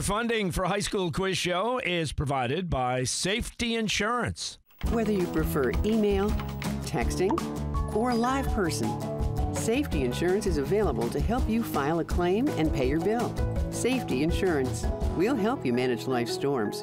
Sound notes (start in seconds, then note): 7.0 cellphone chirps; 7.8 cellphone rings